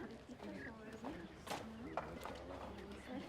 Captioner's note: murmured conversation